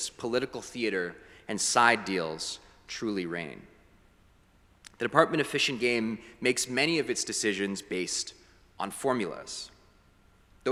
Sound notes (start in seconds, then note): none